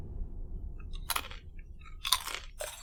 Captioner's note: chips crunching